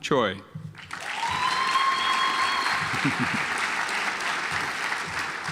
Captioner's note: audience applauds